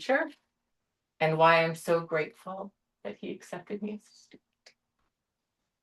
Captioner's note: voice wavers